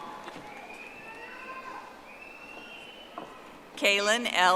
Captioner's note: audience applauding